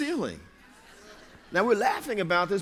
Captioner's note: laughter